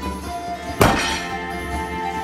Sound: table slam

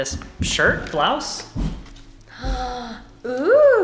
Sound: gasps

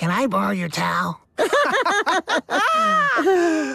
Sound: laughing

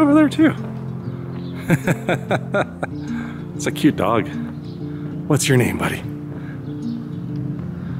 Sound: laughter

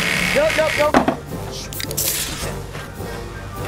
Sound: drill runs; playful music

